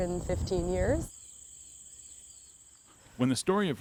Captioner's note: birds rattling